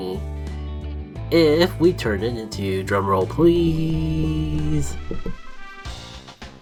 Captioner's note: light table tap